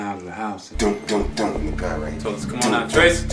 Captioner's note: imitates knocking